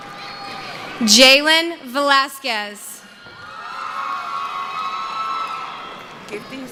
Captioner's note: cheering